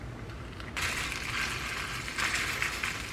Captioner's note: sizzling